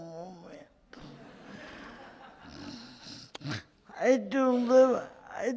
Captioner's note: audience laughs